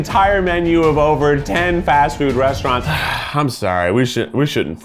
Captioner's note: sighs